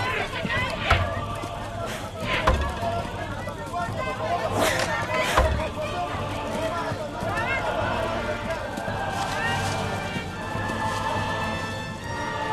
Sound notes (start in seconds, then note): 0.7 air whooshes